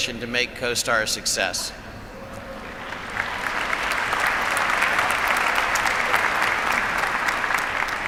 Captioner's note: applause